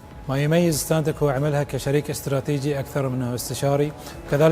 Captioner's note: speaking Arabic